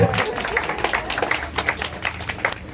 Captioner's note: applause